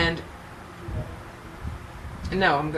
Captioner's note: lady murmurs